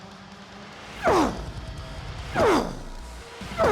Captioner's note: continues grunting